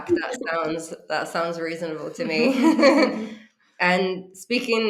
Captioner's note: laughs